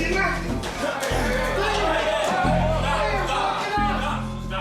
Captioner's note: shouting